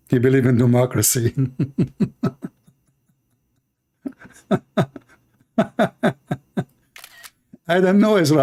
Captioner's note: Ketawa